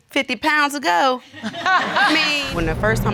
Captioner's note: audience laughing